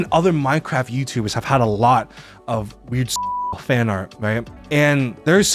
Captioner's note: beeps